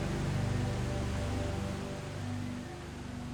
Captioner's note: rushing water